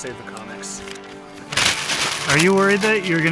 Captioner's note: crumpling paper